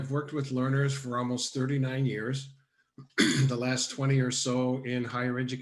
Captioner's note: coughs